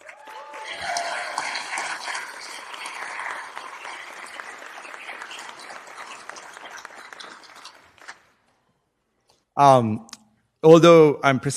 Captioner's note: applause